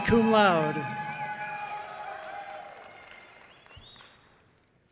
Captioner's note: audience cheering loudly